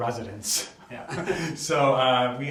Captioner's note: laughs